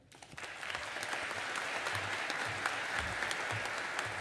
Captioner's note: audience applauding